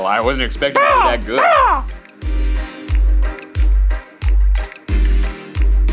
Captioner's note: caws